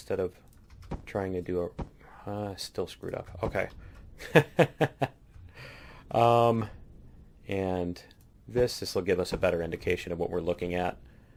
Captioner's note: laughs